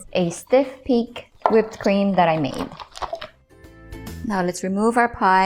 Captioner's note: bowl thuds; bag thudding